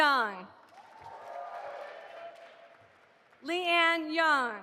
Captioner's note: audience applauding